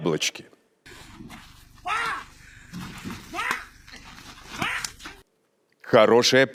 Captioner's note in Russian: Крики людей, которые украли яблоки